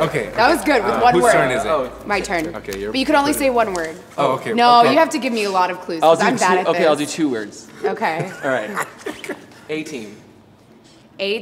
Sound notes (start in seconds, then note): 7.8 laughs